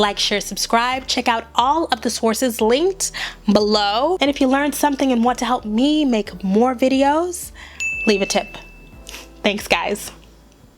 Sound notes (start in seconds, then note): 7.8 bell rings